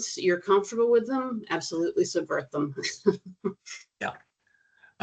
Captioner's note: chuckling